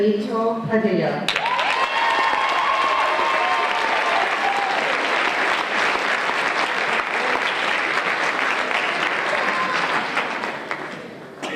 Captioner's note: applause and Cheers